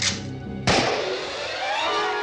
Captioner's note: gunshot